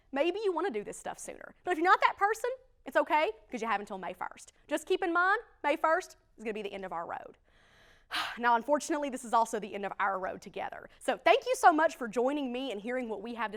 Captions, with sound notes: maybe you want to do this stuff sooner. But if you're not that person, it's okay because you have until May 1. Just keep in mind May 1 is going to be the end of our road. [Sigh]. Now unfortunately, this is also the end of our road together. So thank you so much for joining me and hearing what we have